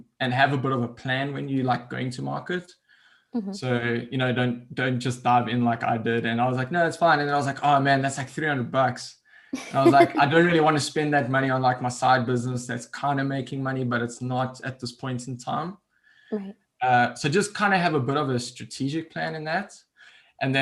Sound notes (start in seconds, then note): 9.6 laughs